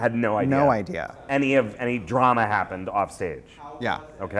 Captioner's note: voiceover